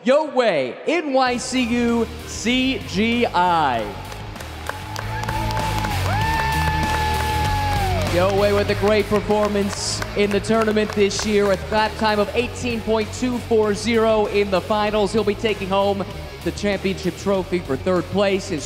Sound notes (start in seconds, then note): 4.4 intense music; 5.6 crowd clapping and cheering